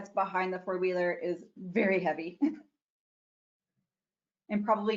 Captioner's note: giggles